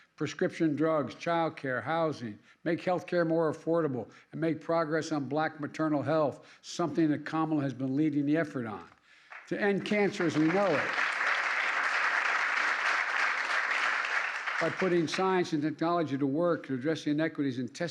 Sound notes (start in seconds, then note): 9.2 applause